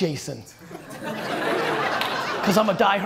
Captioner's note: audience laughter